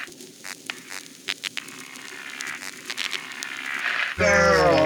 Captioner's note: electric Fizzle